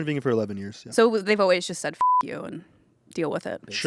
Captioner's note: beep